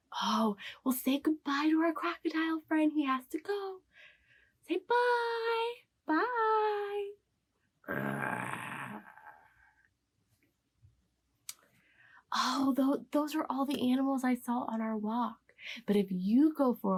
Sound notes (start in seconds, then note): 7.8 growling noise